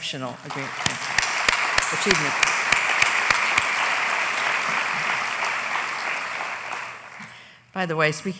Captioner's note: applause